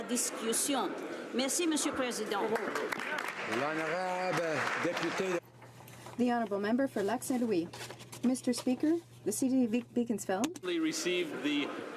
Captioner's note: speaking French